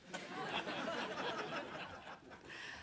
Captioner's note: laughter